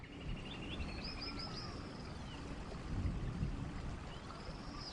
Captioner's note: birds chirping